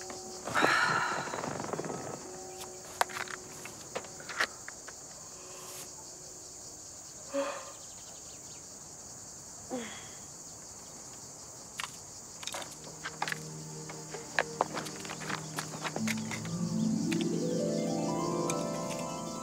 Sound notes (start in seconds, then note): 0.4 sighs; 7.3 yawns; 9.7 grunts